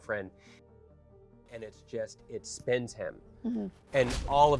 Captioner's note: fist striking